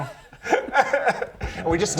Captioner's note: boo hoo